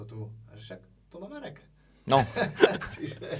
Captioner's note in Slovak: smiech